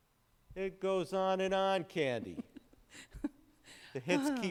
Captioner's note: chuckles